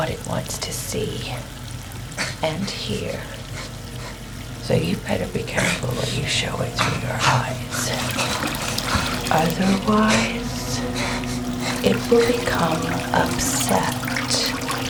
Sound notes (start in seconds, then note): 9.0 faucet running